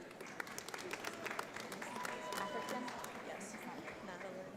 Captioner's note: audience applauds